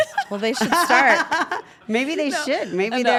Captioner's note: laugh